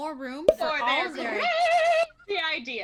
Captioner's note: overspeaking, sing–song